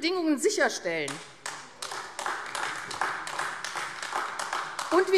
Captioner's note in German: Beifall AfD